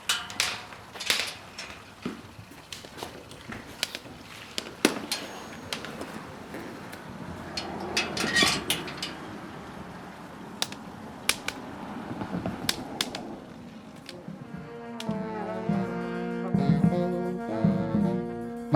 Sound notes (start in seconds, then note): 0.2 cane clanks against metal gate; 7.4 gate squeaks and clicks shut; 10.8 distant traffic, cane tip taps; 14.2 ballad on a small marching band